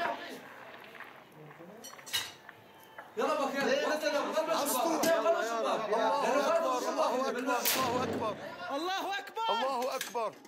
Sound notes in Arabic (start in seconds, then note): 3.1 الصوت المنطوق باللغة العربية